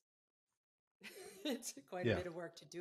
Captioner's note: laughing